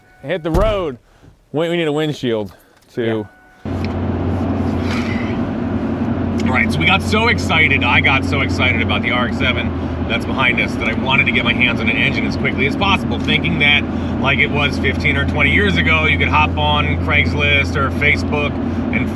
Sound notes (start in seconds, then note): 0.0 car door thudding; 2.0 keys jingling; 4.3 engine revving